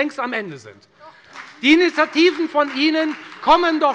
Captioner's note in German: Beifall bei der FDP